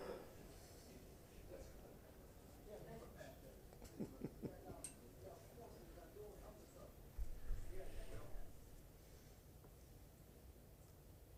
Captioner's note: laughter